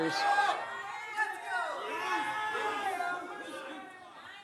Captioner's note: crowd jeering